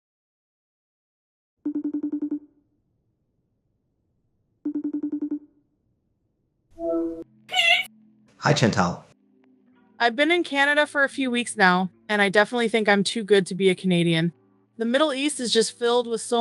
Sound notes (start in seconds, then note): 1.6 phone rings; 6.5 call answered; 7.5 Chantal screaming